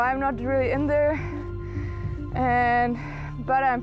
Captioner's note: none